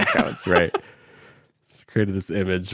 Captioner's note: laughs